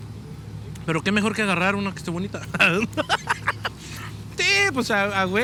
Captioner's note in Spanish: risa